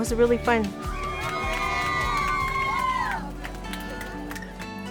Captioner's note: cheering